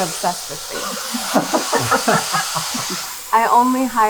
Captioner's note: people laughing